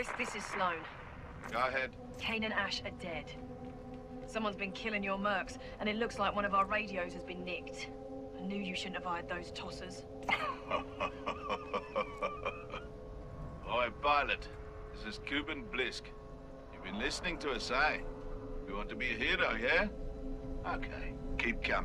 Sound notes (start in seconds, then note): 0.6 radio; 10.2 impressed rough chuckle, dangerous laugh; 11.0 radio